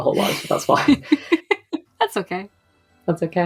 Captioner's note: laughs